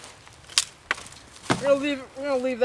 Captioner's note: wood snapping and thudding